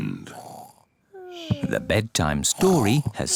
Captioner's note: both snore